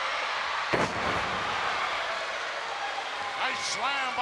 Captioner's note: wrestler thudding